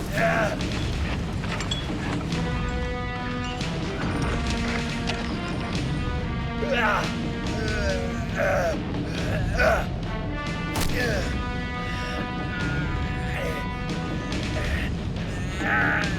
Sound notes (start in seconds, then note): 0.1 exciting orchestral music; 7.4 grunting; 10.7 fleshy smack; 11.8 grunting